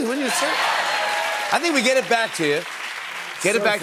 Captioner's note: cheers and applause